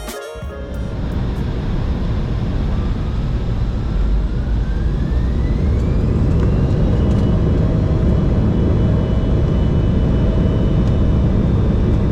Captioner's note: engine spool up